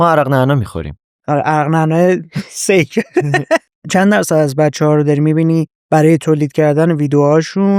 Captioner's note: laughs